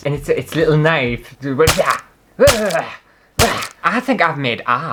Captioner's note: fighting & Stabbing Sounds